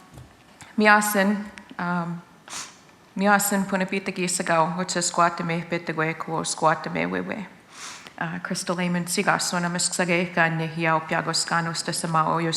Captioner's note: foreign Speaking